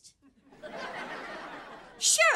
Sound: laughing

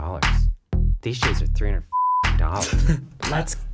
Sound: chuckles; singing along

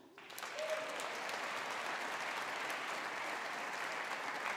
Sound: audience applauding

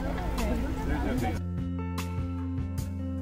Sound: chatter

